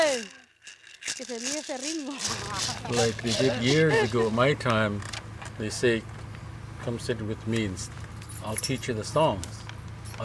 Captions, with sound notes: (speaking in foreign language) - Like they did years ago, my time, they say, come sit with me and I'll teach you the songs.